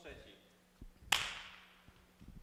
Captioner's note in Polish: Klaśnięcie